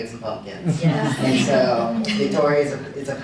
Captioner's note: audience chuckling